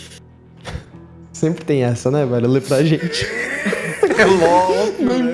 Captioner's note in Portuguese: Todos riem